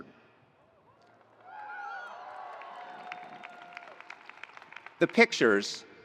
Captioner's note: attendees applauding; attendees cheering